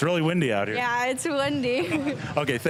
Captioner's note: chuckling